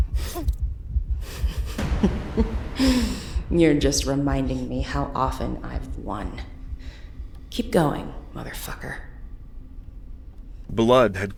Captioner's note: inner thoughts, small chuckle